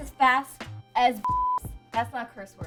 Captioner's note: beep